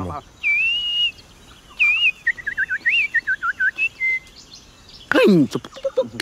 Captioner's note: bird sound